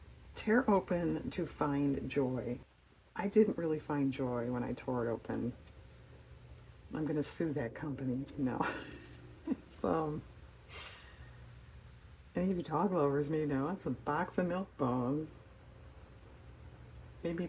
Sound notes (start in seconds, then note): 8.6 laughs